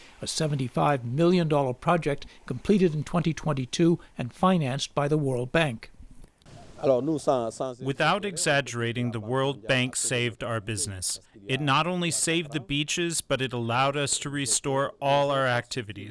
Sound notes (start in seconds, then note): 8.4 through translator